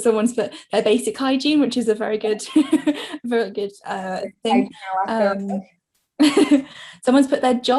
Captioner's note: laughing